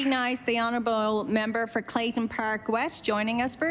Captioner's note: applause